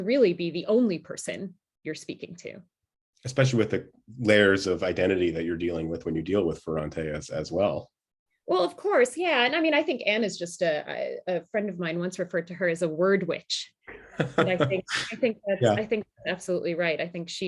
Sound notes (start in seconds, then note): 13.9 laughter